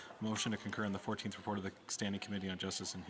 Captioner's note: speaking French